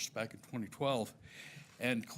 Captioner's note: none